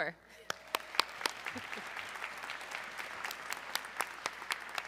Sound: audience clapping

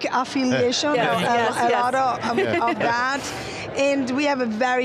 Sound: laughs

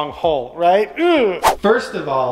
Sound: groans

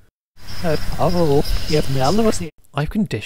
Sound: rewinding sound again

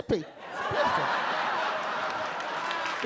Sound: audience laugh; audience cheer and applaud

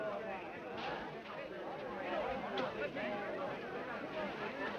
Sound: people chattering

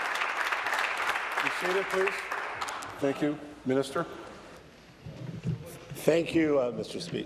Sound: applause

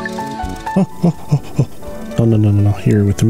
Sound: data Noises

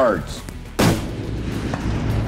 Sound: gunshot

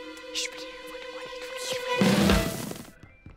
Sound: whispering

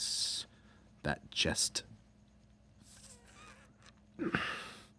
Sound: rustling

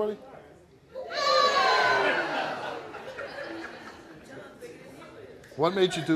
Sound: audience jeers and laughs

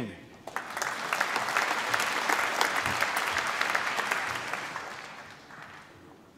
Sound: applause

